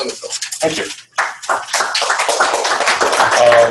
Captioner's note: clapping